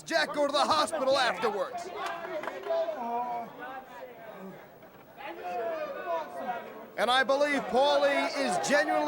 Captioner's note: crowd chatter